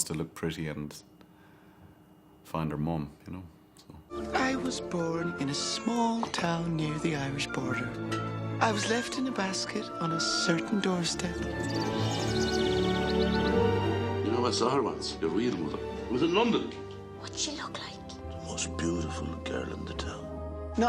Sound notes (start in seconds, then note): 10.7 birds chirping; 11.1 glorious music